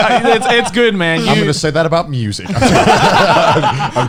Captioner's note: laughing